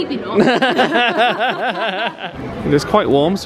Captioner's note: laughing